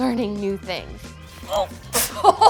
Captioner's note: laughing